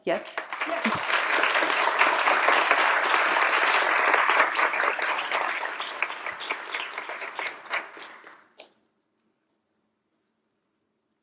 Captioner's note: applause